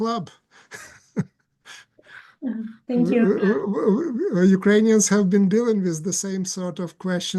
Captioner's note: laughs